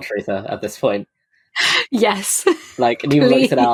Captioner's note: laughing